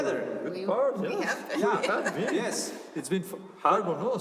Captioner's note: laughter